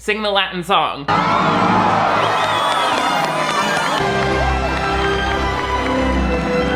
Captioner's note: crowd cheers; uplifting music